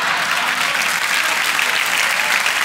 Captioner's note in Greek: χειροκρότημα